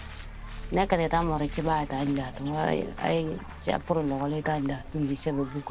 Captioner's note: speaking in foreign language